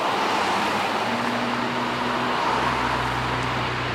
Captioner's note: cars whooshing